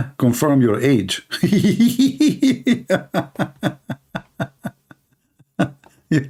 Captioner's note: Ketawa